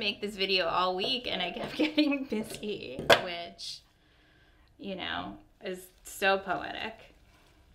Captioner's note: chuckles